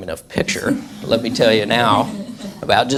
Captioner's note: audience laughs